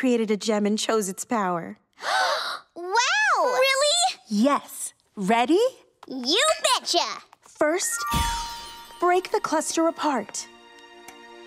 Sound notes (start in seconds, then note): 1.7 gasping